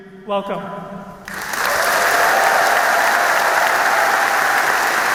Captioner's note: audience applauding